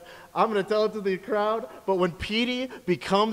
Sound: none

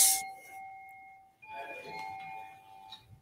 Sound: bells chiming

